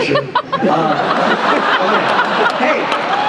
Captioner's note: laughter